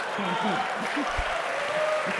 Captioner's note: applause; laughter